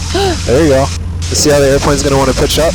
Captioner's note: gasps